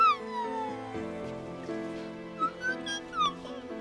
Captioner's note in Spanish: bebé chirriando